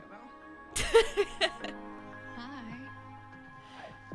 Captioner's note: laughs